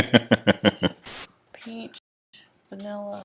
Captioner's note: laughing